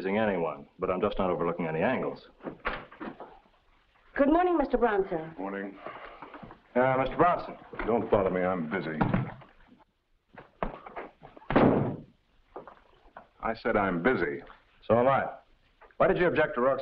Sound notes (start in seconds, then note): 11.4 door bangs shut